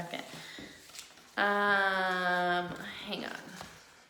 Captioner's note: paper rustling